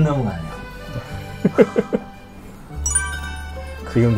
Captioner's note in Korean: 웃음